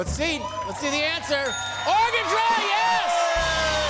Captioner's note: ding!